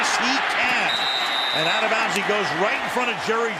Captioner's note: whistles